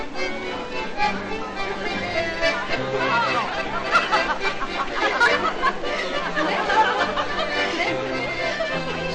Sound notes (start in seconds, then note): 3.9 laughing